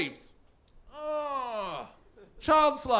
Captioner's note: depressed groan